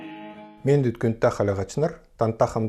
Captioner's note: speaks in Kalmyk